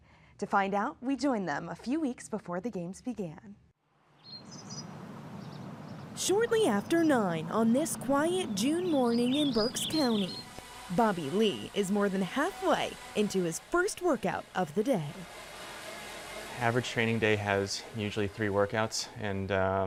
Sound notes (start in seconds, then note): 4.2 birdsong